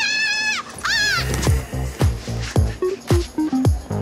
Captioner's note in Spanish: Grito